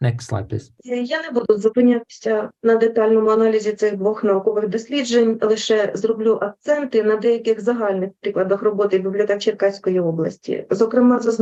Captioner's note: foreign Language Spoken